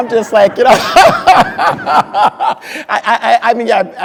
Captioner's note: crowd laughing